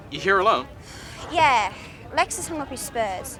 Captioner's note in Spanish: suspira